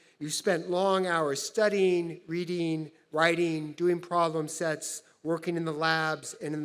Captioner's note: none